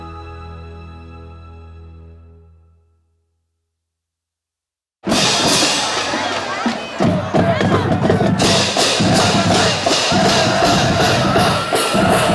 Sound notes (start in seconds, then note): 3.2 silence